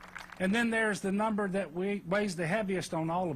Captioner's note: applause